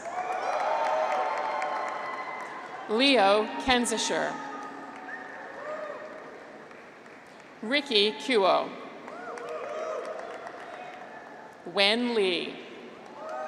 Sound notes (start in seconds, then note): 0.0 graduates cheer; 9.0 graduates cheer